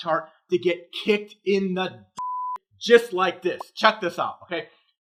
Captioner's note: beep